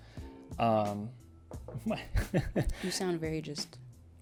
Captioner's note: laughs